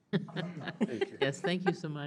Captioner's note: all laughing